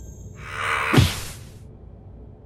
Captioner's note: fan screams